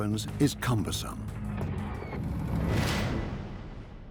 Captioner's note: sound of missile taking off